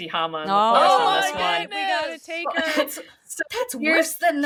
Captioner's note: they exclaim